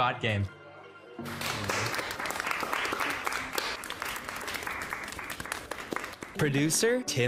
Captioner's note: group applauding